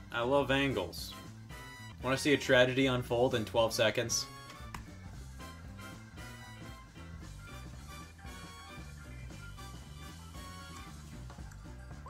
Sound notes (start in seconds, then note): 4.6 keyboard clicking; 5.4 upbeat music